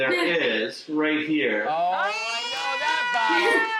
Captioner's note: cheering